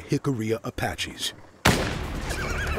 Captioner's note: gunshot